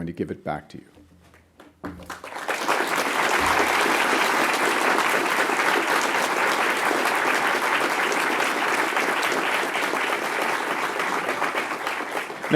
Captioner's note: applause